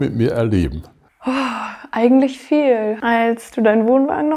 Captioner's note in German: seufzt